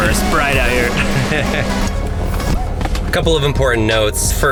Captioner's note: laughs